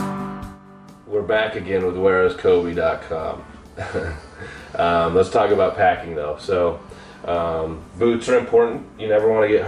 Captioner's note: chuckles